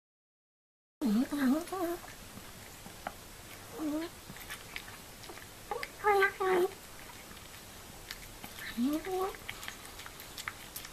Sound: sound of cat eating

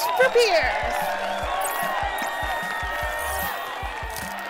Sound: crowd cheering

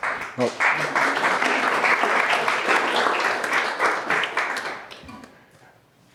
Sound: applause

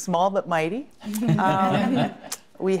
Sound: all laughing

